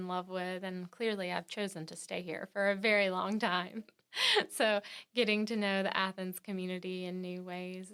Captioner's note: laughs